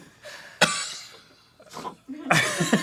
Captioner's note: cough-wheeze